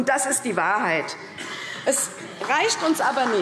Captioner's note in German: Beifall CDU